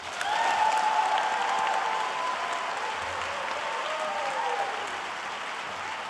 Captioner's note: applause